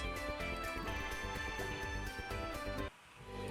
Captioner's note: sounds of a little glade